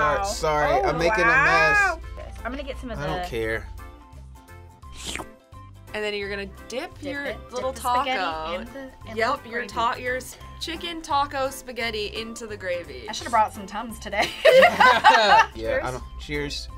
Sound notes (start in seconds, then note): 4.9 slurping; 14.2 laughs